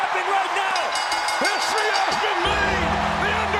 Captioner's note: bell dings